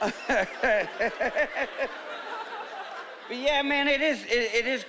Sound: laughing

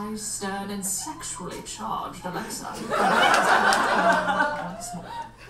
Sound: audience laughs

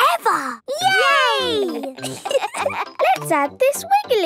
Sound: laughter

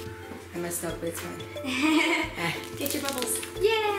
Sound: laughing

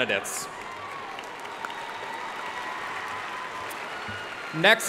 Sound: audience cheering and applauding

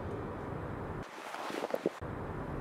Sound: rustling of clothes

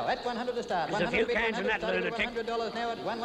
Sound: auctioneer chanting

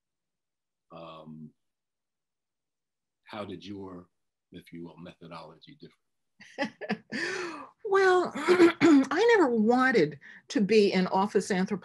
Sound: laughs

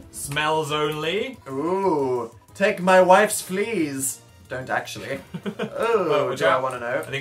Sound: chuckles

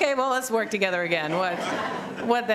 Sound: laughter

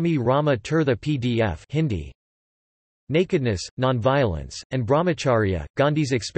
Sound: Hindi

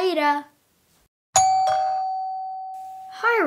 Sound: doorbell rings

